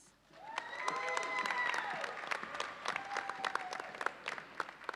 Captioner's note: audience cheers and applauds